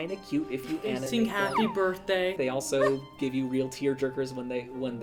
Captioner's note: dog whine, bark